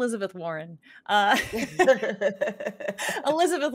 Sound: group laughing

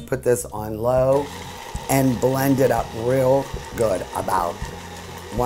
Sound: mixer whirs

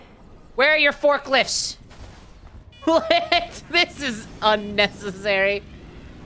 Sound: laughing

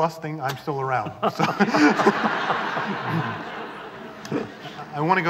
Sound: laughter

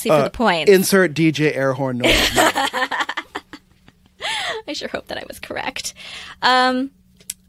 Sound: laughter

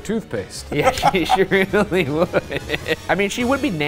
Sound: laughs

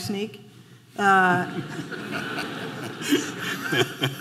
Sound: audience laughing

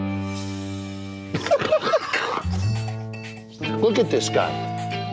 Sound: laughing

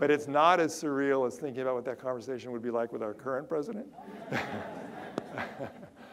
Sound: audience laughter

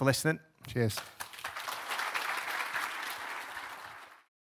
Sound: applause

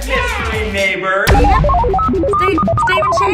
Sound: beep boop sounds

